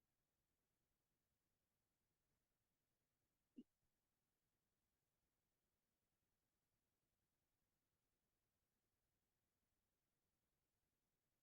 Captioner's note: silence